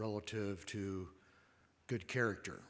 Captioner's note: none